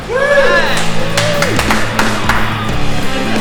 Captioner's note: applause